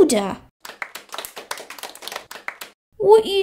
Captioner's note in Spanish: Aplausos